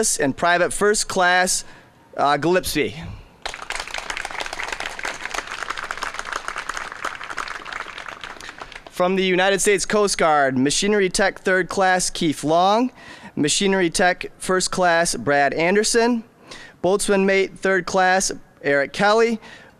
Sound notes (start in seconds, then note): 3.4 applause